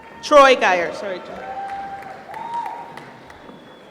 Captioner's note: applause